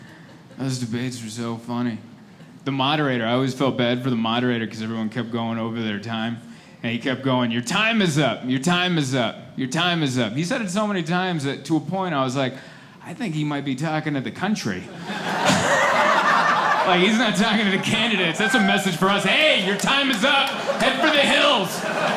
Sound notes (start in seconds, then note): 15.0 laughing